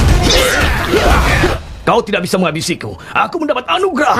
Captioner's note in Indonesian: berteriak